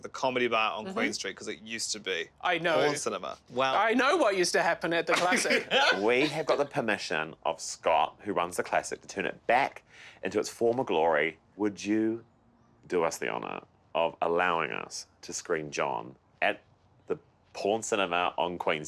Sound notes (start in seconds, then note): 5.0 laughing